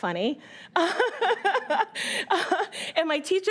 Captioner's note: laughing